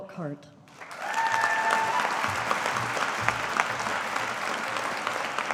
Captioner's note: audience applauding